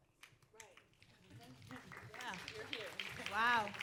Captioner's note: audience clapping